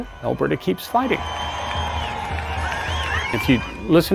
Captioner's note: people cheering